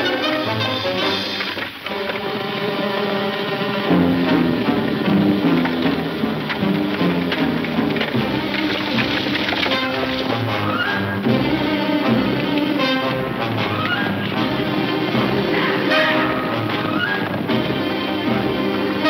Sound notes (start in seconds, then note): 0.1 hooves clunking rapidly; 6.3 wagon rustling; 8.5 hooves clunking rapidly